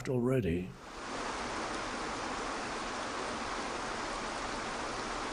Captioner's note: waterfall bubbling